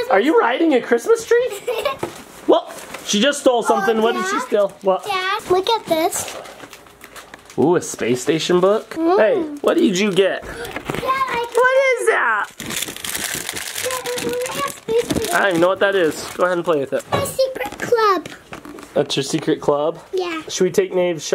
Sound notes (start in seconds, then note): 1.5 laughs